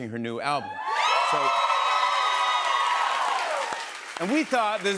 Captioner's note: cheers and applause